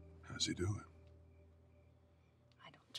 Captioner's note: whispering